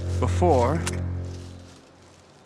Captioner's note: click